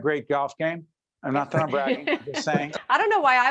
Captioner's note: laughing